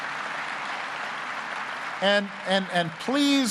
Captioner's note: applause